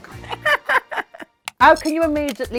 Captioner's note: Baga chuckles